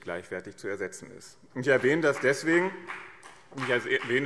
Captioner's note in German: Beifall BÜNDNIS 90/DIE GRÜNEN und CDU